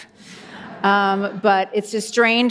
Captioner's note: audience laughs